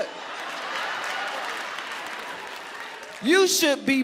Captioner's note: audience applauding